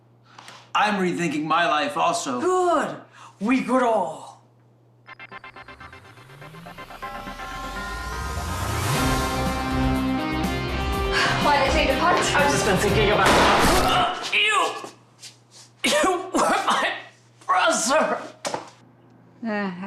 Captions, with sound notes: - I'm rethinking my life also. - Good, we grow. (upbeat music) - Why did they take the punch? - I've just been thinking about (shot firing) you. You were my brother.